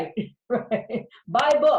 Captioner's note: laughs